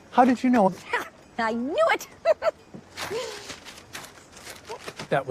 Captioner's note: laughs